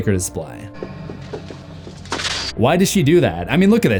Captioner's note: crashing